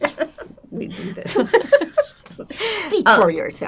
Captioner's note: laughing